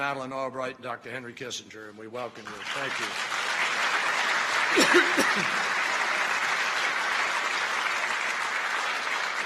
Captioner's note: applause